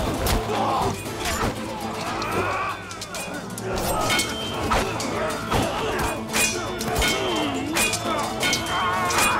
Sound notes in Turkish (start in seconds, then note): 1.0 İnliyor; 4.4 Kılıç sesleri